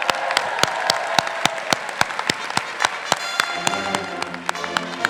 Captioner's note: crowd cheering and clapping